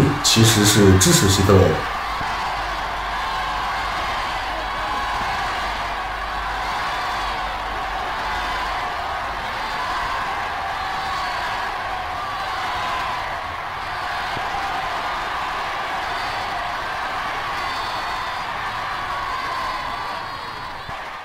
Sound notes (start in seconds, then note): 3.2 cheers